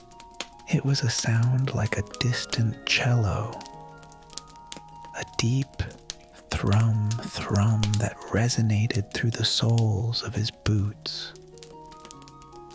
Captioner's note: thrum-thrum